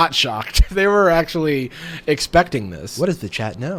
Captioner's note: laughs